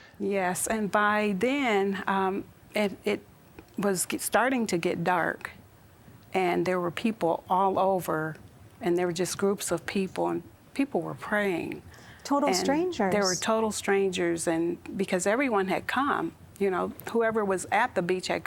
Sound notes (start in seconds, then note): none